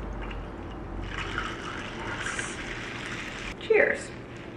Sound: Olipop splashes

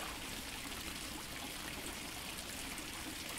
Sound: fountain sound

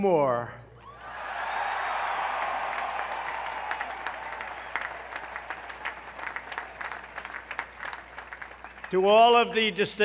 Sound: applause

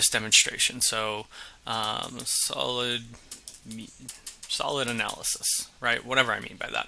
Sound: keyboard clicking

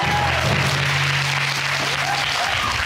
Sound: audience exclaiming, applauding

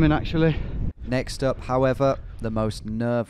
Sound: voiceover

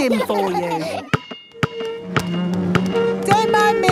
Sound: chair scraping

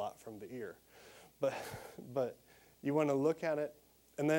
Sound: laughing

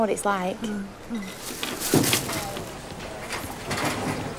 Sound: basket rattling

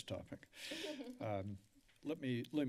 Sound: laughter

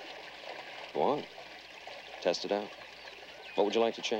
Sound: birdsong

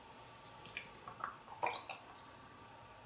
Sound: gurgle sound

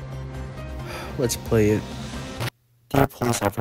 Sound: sigh

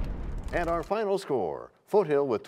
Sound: crashing sound

